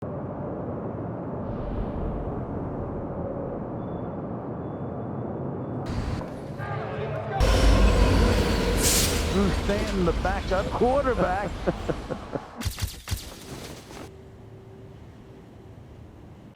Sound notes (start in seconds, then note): 11.5 laughing